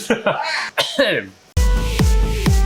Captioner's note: ahem